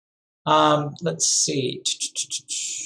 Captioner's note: hums